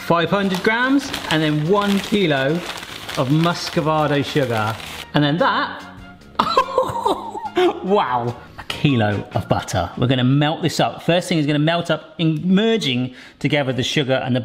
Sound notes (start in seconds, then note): 6.4 laughing